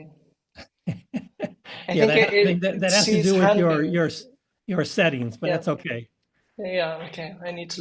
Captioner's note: laugh